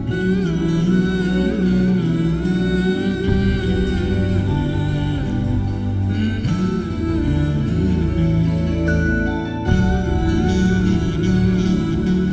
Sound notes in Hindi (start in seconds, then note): none